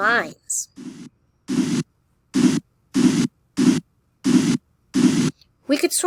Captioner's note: scraping sounds